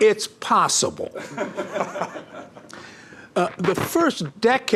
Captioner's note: laughing